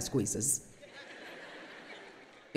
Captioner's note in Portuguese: audiência ri